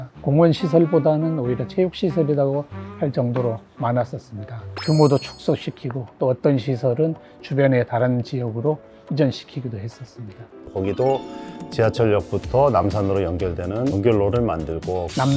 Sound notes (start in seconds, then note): 4.8 emphasizing sound effect; 10.6 upbeat music